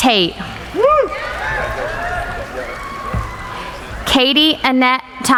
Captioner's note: applauding